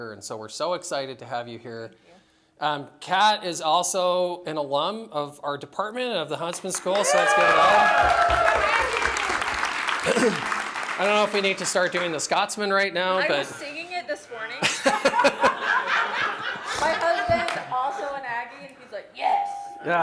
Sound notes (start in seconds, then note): 6.8 cheering; 14.6 laughter